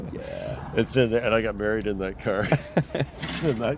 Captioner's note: laughs